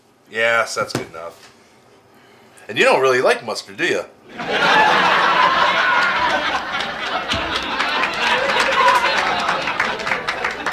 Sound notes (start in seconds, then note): 4.3 audience laughs and applauds